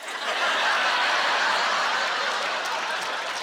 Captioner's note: laughing